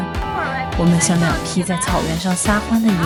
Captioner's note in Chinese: 叫起来